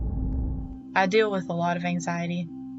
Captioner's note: fire roaring